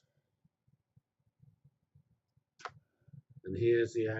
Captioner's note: pause